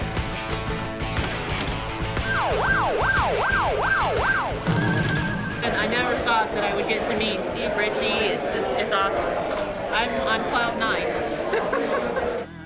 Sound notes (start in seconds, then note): 2.2 game sirens; 11.6 laughs